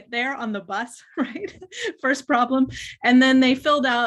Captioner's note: chuckles